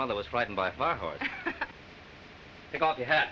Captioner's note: chuckles